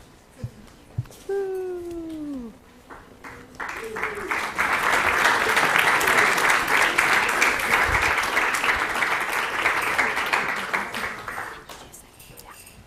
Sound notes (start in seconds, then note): 2.8 applause